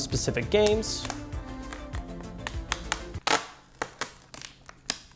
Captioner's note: tape ripping